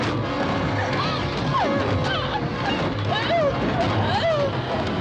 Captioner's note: whimpering